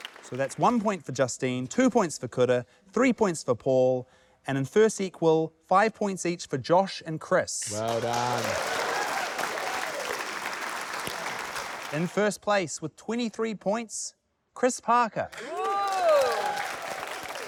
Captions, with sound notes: - So that's one point for Justine, two points for Kura, three points for Paul, and in first equal ― - five points each for Josh and Chris. - Well done. - (CHEERING) - In first place with 23 points, - Chris Parker. - Ooh! - (APPLAUSE)